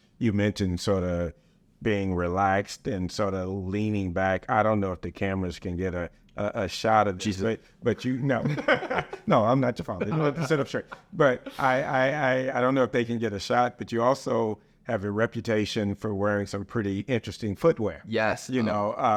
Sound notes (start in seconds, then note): 8.4 both laughing